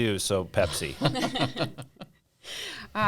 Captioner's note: laughing